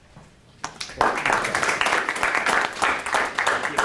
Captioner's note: board and audience applauding